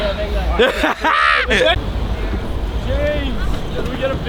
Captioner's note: laughs